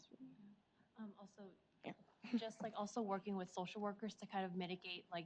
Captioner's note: voice fades; chuckles